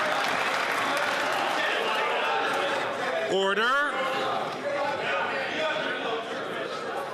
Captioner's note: some Applause